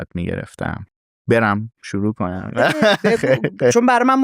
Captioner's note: laughs